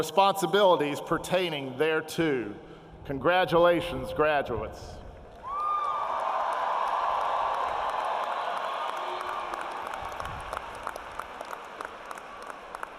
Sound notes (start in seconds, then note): 8.0 cheering and applause